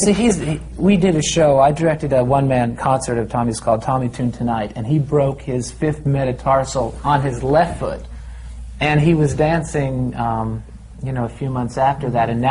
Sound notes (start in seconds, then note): none